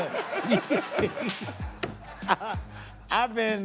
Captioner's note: laughter